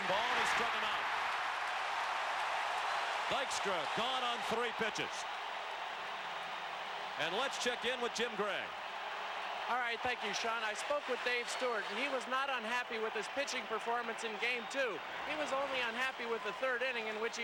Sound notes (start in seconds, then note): 4.6 applause